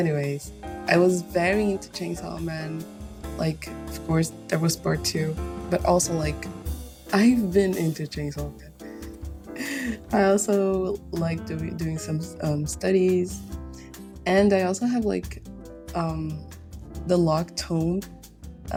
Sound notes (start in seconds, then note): 9.6 chuckles